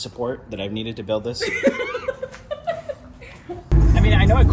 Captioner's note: laughs